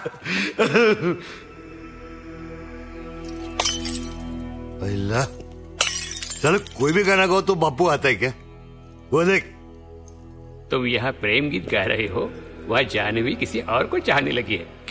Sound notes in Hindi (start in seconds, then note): 0.0 मुन्ना-सर्किट हँसते हुए; 3.3 बोतल टूटने की आवाज़